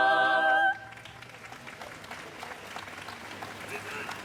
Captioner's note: congregation claps